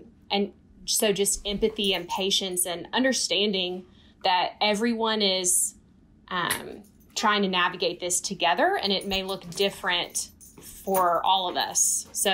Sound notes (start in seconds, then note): none